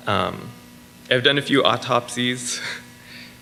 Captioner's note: chuckles